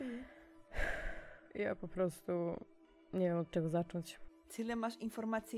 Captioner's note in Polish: wzdycha ciężko